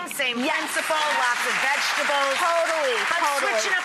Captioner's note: clapping